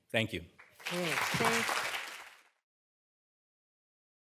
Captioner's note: applause